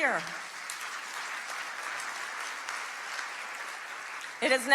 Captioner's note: crowd clapping